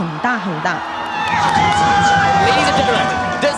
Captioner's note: crowd cheering